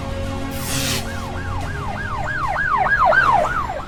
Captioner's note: siren blaring